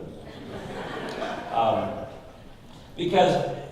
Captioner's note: audience laughing